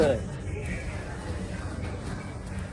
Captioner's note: laughing